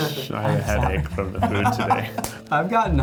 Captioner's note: laughing